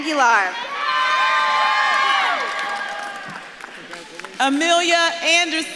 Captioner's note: audience claps and cheers